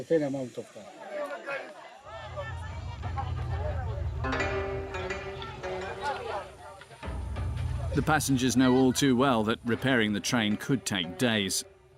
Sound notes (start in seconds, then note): 1.0 indistinct chatters; 2.2 suspenseful music